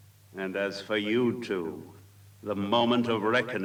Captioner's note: none